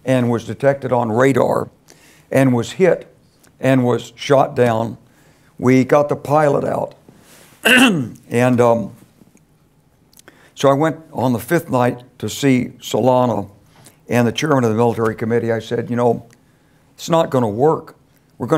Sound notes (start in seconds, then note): 7.6 cough